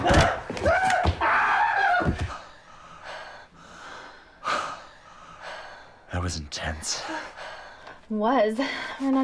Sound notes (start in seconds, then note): 1.7 Oswald Screams; 2.8 panting